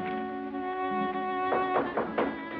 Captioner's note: knocking